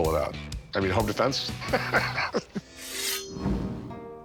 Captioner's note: laughs